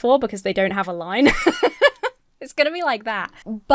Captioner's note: laughs